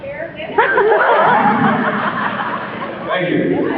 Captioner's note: laughs